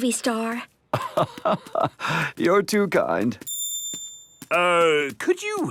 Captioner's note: laugh